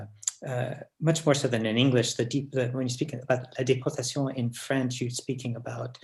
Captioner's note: french